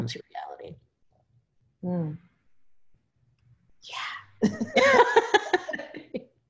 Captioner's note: laughter